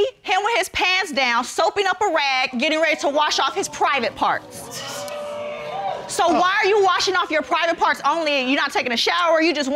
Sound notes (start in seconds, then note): 2.8 audience exclaims